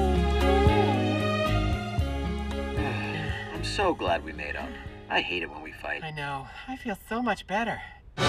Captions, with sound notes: [SIGHING] -I'm so glad we made up. I hate it when we fight. -I know. I feel so much better.